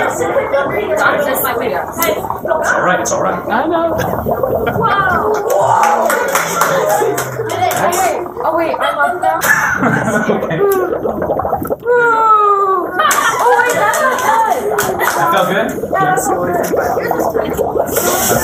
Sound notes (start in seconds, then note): 5.4 applause; 9.4 laughter